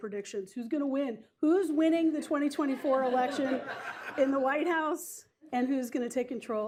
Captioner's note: laughter